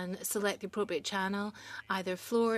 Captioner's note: speaking in French